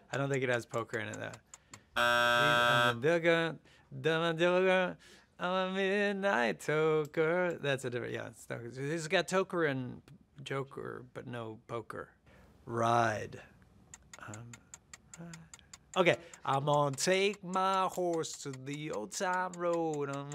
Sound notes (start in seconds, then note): 2.0 bell buzzes; 2.3 humming